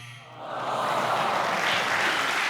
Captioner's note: buzzer; audience moans; audience clapping